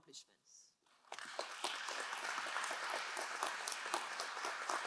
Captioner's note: crowd applauding